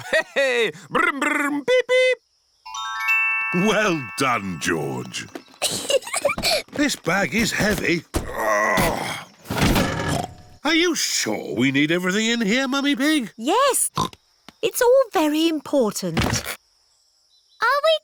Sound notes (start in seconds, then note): 5.6 peppa giggles; 8.1 grunts; 10.4 snorts